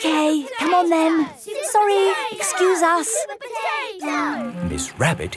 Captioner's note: children chanting